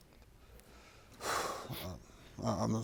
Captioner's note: sighing